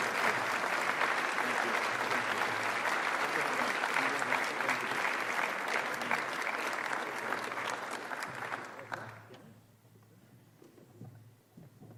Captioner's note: applause